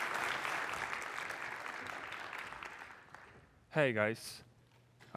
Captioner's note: applause